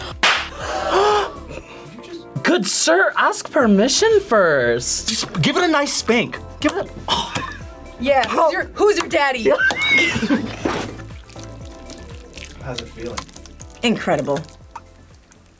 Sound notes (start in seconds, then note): 0.2 Jell-O smacks; 0.5 gasps; 9.4 laughs; 9.4 both laugh; 9.7 Jell-O squelching